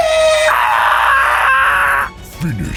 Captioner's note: chicken noise